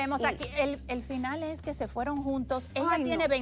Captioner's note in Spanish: hablan al unísono